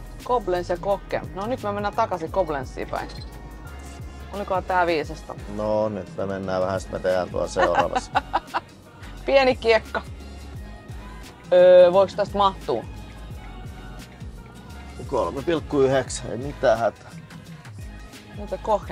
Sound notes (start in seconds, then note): 11.1 laughter